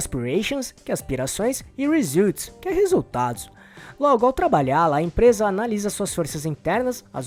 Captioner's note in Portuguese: aspirações